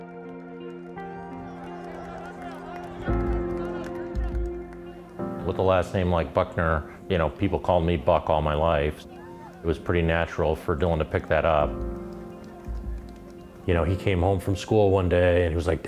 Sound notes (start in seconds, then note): 1.8 crowd applauding and cheering